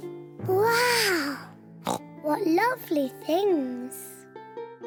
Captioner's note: oinks